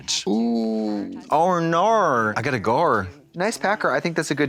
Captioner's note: Australian accent